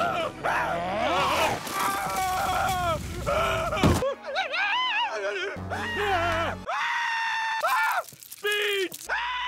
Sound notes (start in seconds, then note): 0.1 growling; 0.4 screaming